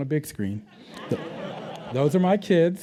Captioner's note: laughter